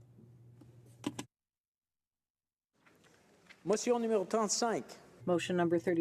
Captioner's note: speaking French